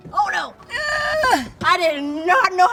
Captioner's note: gasps